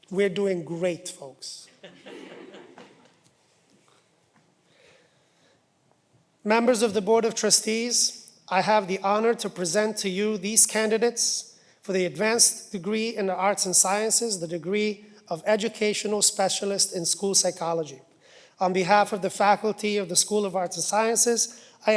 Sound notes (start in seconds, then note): 1.6 laughter